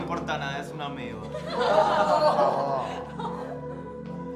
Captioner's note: laughter